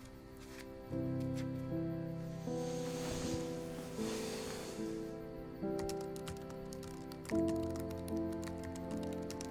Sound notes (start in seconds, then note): 2.8 sighs; 5.7 keyboard clacking